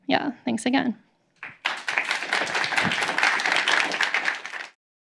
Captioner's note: applause